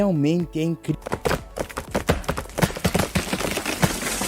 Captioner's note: sound of Plant falling